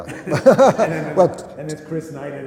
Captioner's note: laughter